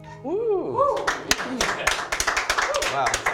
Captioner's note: applause